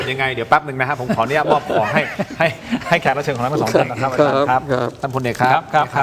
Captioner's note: laughter